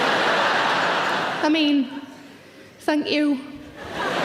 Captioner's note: audience laughing; audience laughing